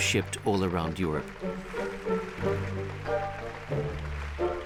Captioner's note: applause